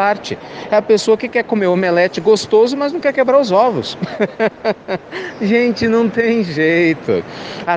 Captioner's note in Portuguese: risadas